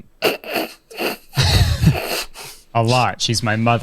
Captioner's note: laughs